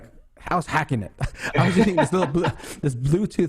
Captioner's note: laughs